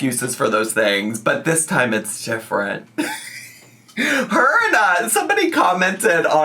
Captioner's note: laughs